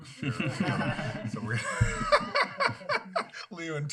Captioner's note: laughter